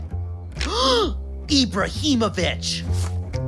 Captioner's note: gasp